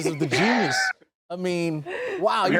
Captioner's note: laughs